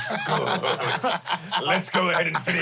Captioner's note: everyone laughs